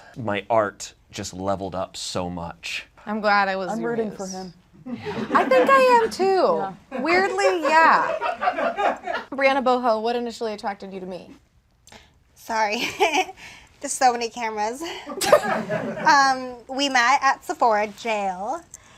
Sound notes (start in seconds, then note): 6.9 audience laughs; 13.1 laughs